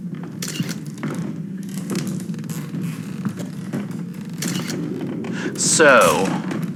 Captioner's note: both start ascending worn stairs fx